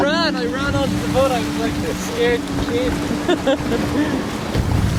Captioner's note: laughs